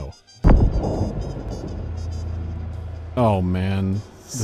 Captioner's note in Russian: раскатистое эхо